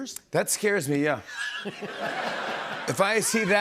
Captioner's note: laughter